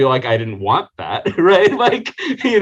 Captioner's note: laughing